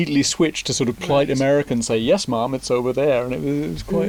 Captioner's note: imitates Standard American accent